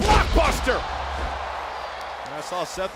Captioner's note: crowd cheering